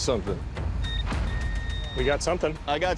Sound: beeping

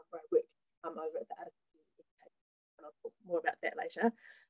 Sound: audio fades out

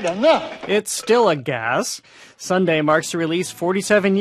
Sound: belching

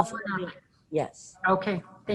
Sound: distorted sound

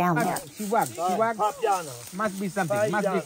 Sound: truffle hunters speak Italian

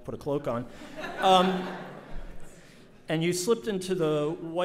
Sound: audience laughs

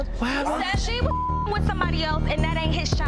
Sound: beep

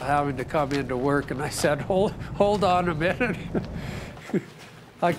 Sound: chuckles

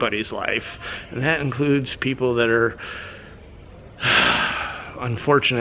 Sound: sighs

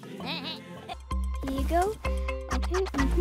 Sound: bleating

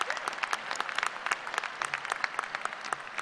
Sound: applause

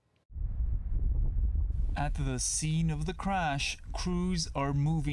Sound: none

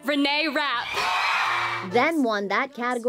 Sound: cheering

